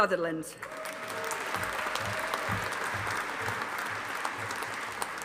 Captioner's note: audience applauding